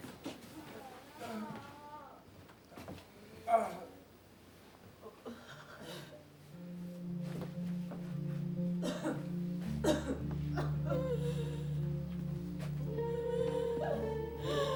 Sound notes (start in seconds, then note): 6.5 melancholic pensive music; 9.7 patients coughing; 11.1 patient wheezing